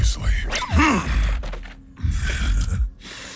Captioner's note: grunts